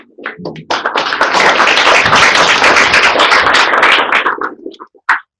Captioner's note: applause